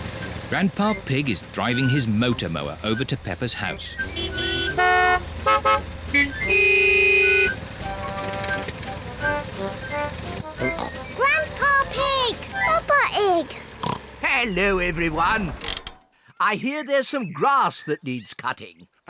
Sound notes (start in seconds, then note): 4.3 horns honk; 10.4 snorts